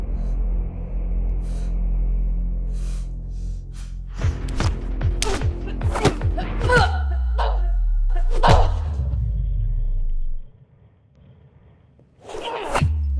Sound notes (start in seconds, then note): 0.3 labored breathing; 4.3 smacking; 4.5 grunting